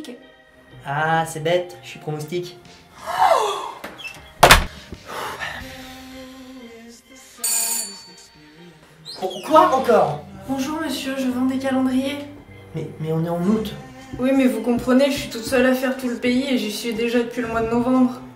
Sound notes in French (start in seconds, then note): 4.4 porte qui claque; 7.4 sonnette